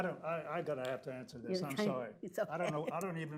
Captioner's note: laughs